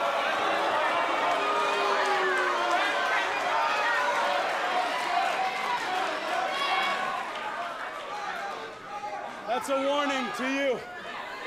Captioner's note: fans chanting; cheers & boos